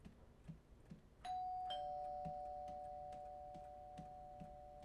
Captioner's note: doorbell ringing